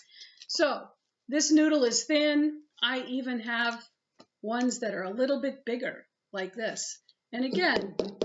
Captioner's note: tapping